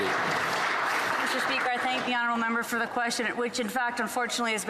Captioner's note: some Applause